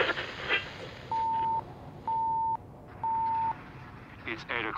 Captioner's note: beeping